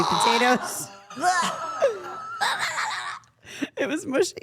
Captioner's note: all laughing